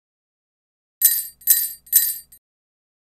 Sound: sound of sleigh bells

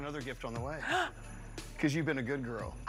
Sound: gasps

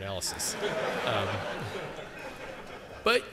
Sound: laughter

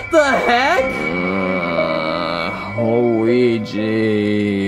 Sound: yells; Mario groaning

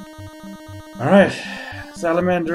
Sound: sighing

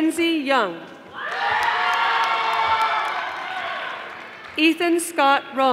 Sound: audience applauding

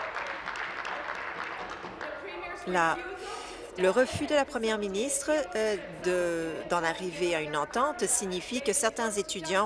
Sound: applause

